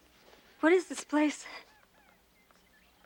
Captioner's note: footsteps